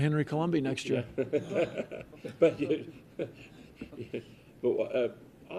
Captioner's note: laughter